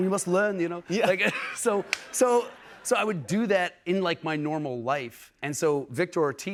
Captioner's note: normal voice